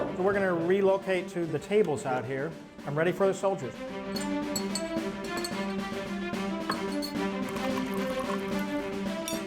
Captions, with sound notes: We're going to relocate to the tables out here. I'm ready for the soldiers. [dishes and silverware clanking] [coffee pouring]